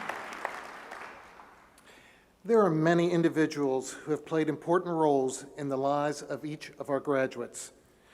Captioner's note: applause